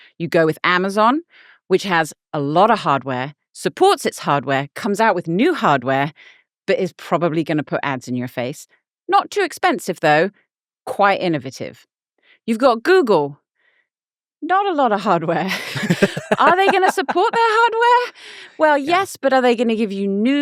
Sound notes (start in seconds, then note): 15.5 laughing